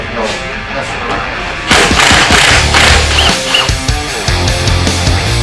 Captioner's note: impact drill